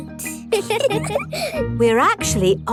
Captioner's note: both giggle